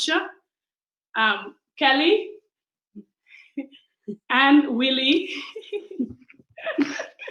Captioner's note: laughs